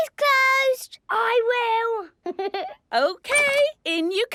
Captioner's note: Danny laughing